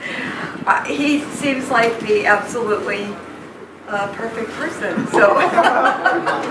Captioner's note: laughs